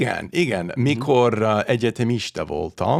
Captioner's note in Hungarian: idegen nyelven beszélve